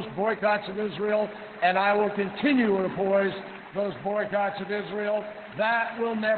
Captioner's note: applause